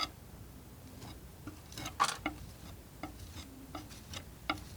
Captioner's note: scratching